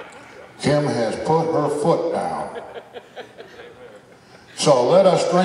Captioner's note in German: Gelächter